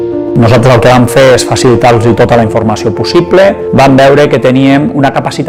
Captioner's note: upbeat music; speaks in foreign language